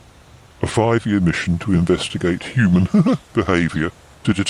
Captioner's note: laughs